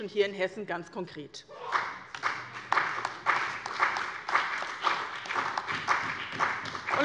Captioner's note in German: Beifall bei dem BÜNDNIS 90/DIE GRÜNEN und der CDU